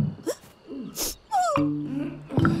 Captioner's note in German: Trauriges Schniefen; Ächzen